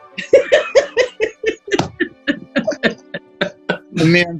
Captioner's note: laughing